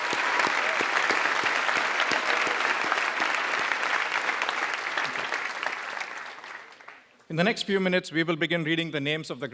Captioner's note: applause